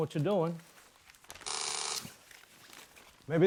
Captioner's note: doorbell rings